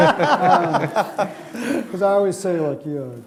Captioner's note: laughing